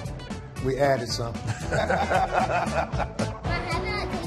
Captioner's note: both laugh